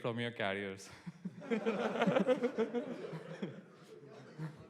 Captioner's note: laughter